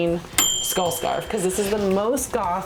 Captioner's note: bell dings